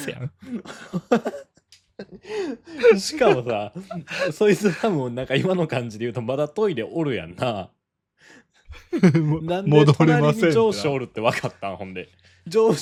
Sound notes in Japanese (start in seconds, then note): 1.6 咳払い; 2.0 笑い; 8.7 笑い